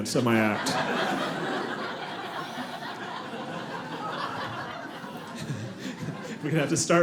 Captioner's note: audience laughing